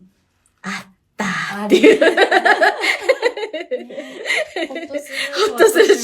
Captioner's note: laughs